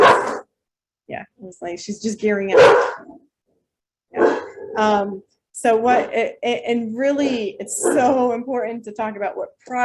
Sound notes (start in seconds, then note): 2.5 dog barking